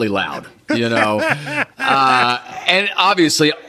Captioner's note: Gilligan laughs